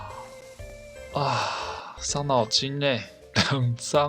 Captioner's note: big sigh ~